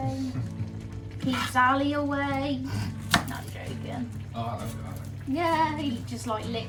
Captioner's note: laughs